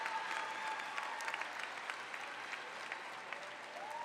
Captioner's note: applause